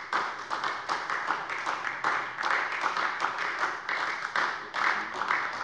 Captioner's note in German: Beifall bei der SPD